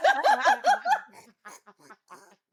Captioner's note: laughing